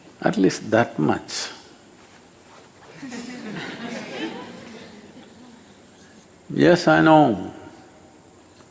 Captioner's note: laughter